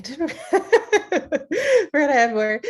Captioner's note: laughing